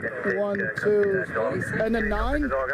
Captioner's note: radio chatter